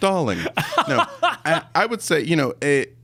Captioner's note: laughing